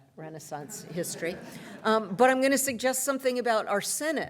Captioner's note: laughter